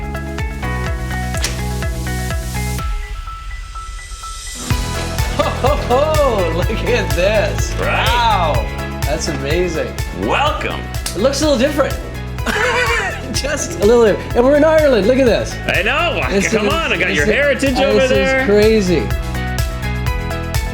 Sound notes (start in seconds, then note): 0.2 upbeat music; 12.4 laughs; 19.9 uplifting music